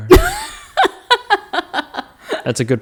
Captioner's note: laughing